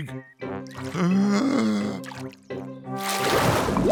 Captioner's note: takes a deep breath